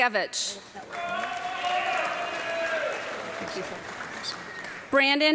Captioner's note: audience clapping and cheering